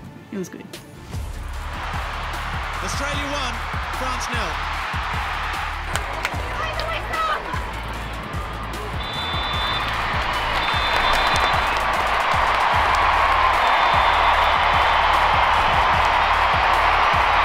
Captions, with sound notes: it was good. Australia 1. France nil. Blow the whistle! *Whistle blows*